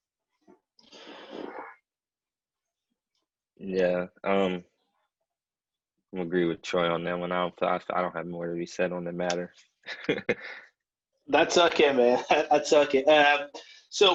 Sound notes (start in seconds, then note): 9.8 chuckles